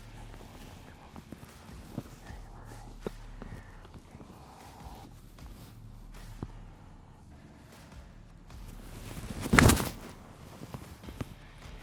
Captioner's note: balloon pops